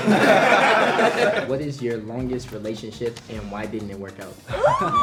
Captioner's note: laughing